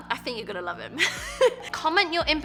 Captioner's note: laughs